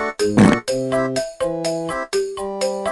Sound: farting

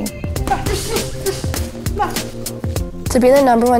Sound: grunting and indistinct yelling

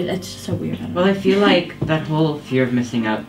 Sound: student chuckles

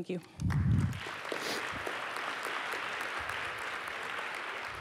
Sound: applause

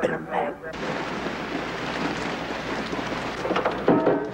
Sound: rain falling

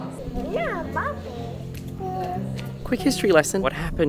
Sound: speaking softly

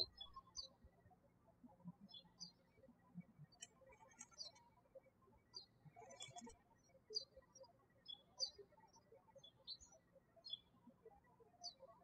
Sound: birds chirping

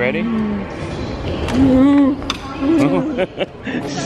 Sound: moans; laughing

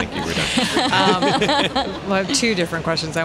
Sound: laughing

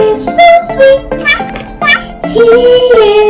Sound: meow! Meow!

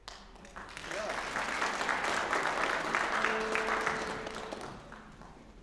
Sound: applause

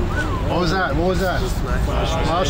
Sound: whistle

